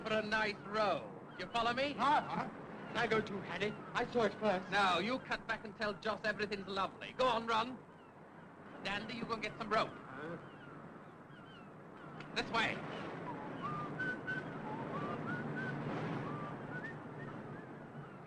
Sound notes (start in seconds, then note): 12.8 Harry whistles